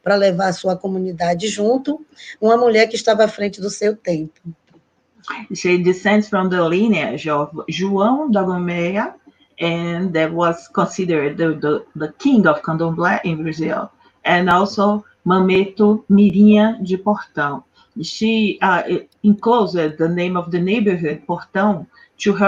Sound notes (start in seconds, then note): 9.9 speaking in strong accent; 17.2 speaking Portuguese